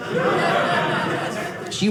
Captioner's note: audience laughing